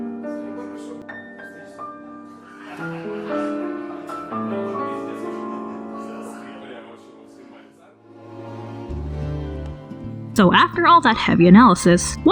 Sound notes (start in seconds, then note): none